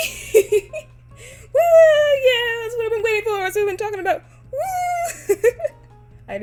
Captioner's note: laughs; laughs